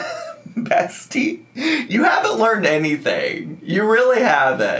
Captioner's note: laughs